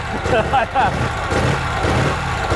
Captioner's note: laughter; engine revving repeatedly